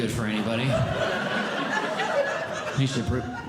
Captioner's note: audience Laughing